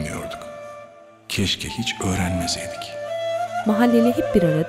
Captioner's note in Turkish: dış ses